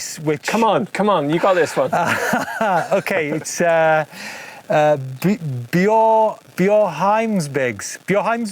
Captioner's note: laughs